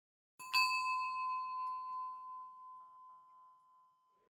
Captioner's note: bell dings